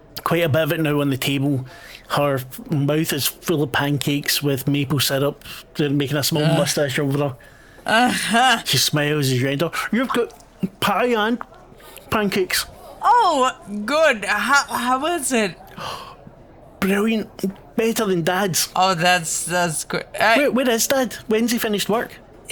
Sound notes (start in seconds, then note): 7.8 laughs; 15.7 ecstatic breath